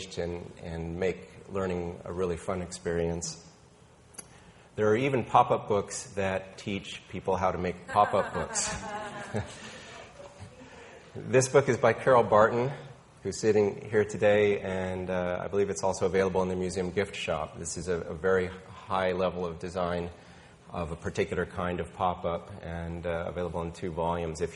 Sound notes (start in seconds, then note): 7.8 woman laughing